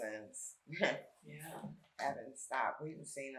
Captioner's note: chuckles